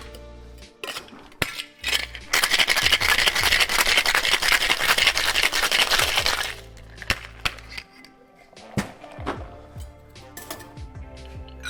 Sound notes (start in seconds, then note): 1.8 cocktail bottle shaking